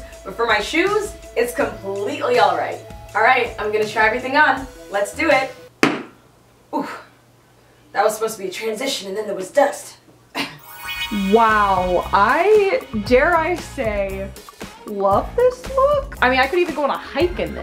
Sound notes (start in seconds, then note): 5.7 banging; 10.3 coughs